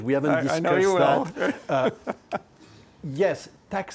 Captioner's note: laughs